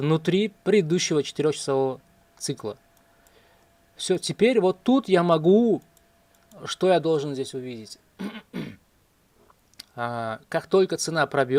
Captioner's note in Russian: откашливается